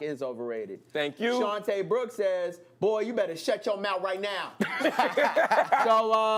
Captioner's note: laughter